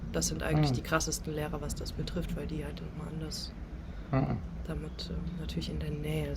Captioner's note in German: räuspern